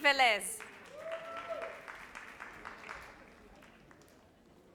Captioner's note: audience applauds